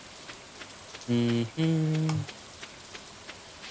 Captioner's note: humming